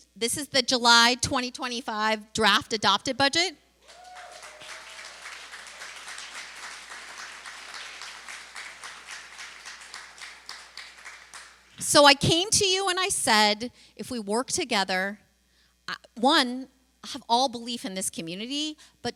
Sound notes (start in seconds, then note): 3.8 applause; 4.3 cheer